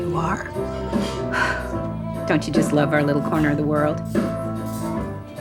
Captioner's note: sighs